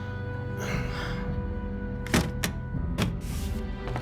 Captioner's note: heavy breathing and sighing